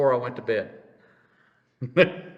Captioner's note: laughs